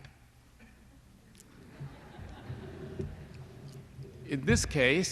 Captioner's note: laughter